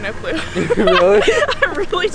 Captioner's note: laughing